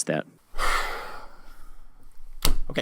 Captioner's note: deep sigh